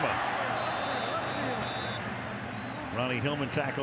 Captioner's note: whistle